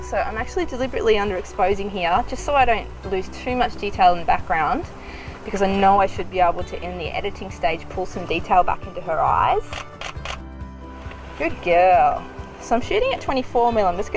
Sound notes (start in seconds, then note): 9.7 camera shuttering